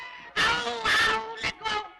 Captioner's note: screaming